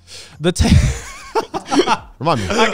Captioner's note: laughs